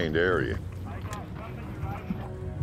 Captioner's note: radio